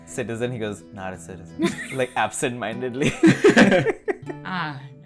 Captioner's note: laughs